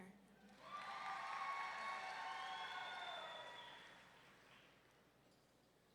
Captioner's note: audience members cheering